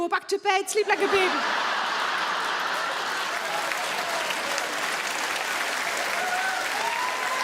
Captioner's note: audience laugh; audience clap